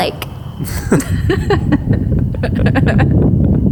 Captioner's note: laughs